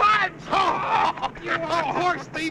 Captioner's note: men laughing